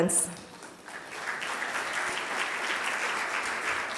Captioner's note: applause